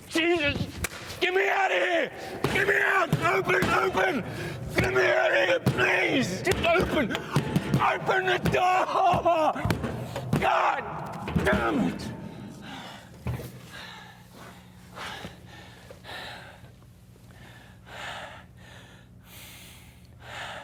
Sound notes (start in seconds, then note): 13.3 panting